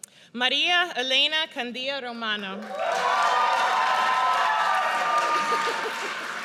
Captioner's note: audience cheers